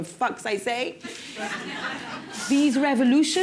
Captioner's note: laughter